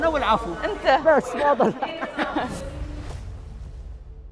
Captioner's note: laughing